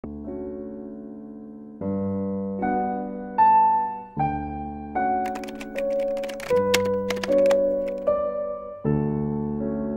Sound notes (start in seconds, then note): 0.1 gentle classical piano; 5.2 typewriter sound